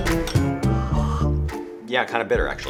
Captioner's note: water slurping